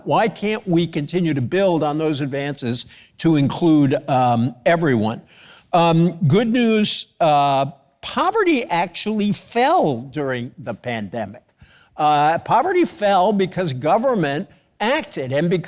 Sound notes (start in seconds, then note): none